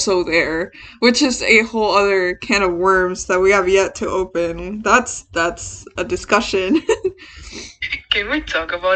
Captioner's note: laughs